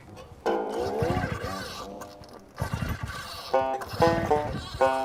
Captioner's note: sound of engine trying to start